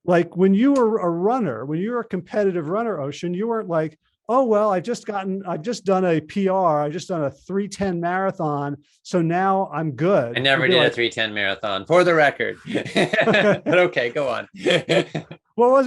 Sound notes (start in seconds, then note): 14.4 laughs